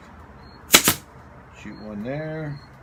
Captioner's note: nail gun operating